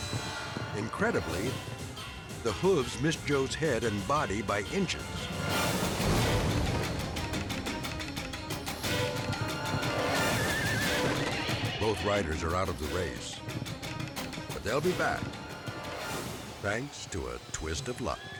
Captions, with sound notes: Incredibly, the hooves missed Joe's head and body by inches. (dramatic music) (horses neighing) Both riders are out of the race, but they'll be back. Thanks to a twist of luck.